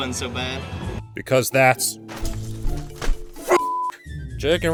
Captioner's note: angry banging noises